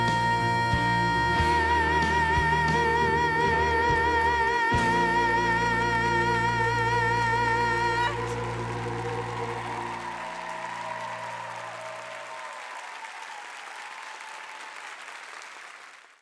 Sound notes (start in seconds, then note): 12.3 applause